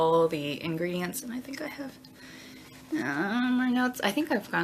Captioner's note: groans